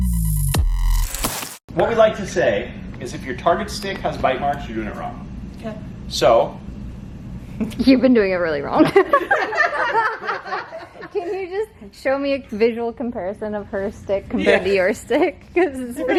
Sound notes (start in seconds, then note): 7.4 laughs; 8.8 laughter